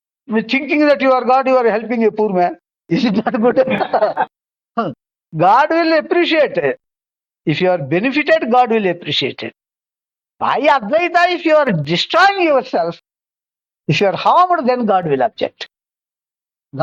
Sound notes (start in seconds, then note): 3.0 laughs